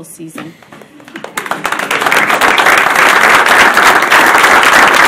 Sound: audience applauding

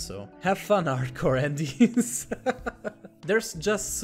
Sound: laughs

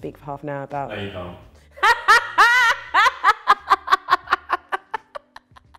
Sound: laughter

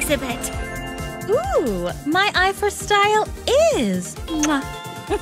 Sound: kisses

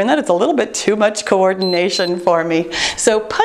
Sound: timer beeps

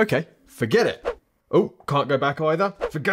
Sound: whooshing

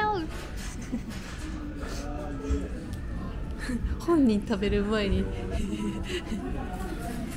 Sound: laughs

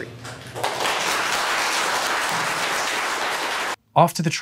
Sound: loud applause

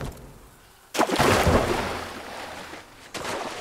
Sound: splash

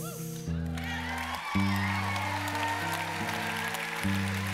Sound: applause

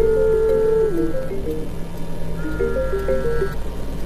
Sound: phone chimes

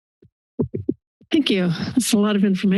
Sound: silence; mic thumping

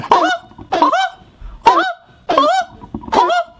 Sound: laughs

